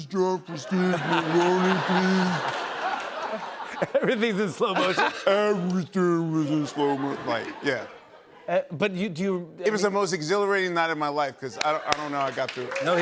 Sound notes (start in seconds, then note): 8.5 normal voice; 11.6 cheers and applause